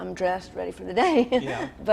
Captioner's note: laughs